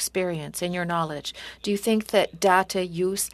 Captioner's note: speaking French